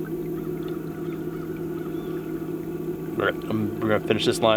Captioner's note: birds tweeting; water splashing